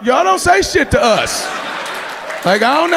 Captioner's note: audience cheering